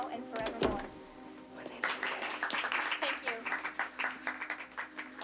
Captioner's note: applauding